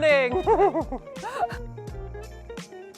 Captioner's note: laughing; light music